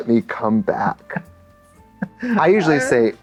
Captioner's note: blubbers